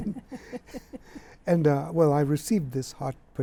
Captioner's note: laughter